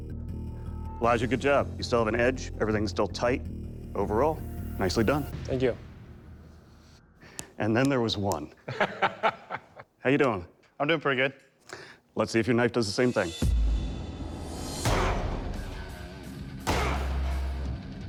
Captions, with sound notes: Elijah, good job. You still have an edge. Everything's still tight. Overall, nicely done. Thank you. And then there was one. [laughs] How are you doing? I'm doing pretty good. Let's see if your knife does the same thing. [heavy metal music]